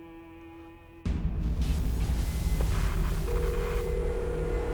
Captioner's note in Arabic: طنين ثابت